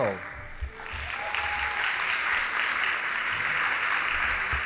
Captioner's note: audience applauding